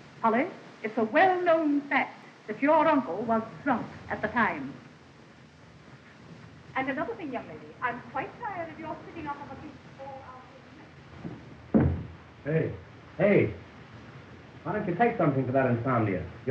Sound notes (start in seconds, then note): none